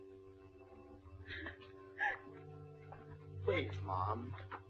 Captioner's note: Tess sobbing